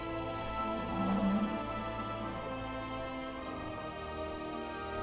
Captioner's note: rhino grunts